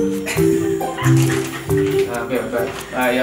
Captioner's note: laughter